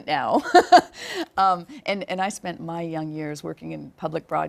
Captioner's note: laugh; laugh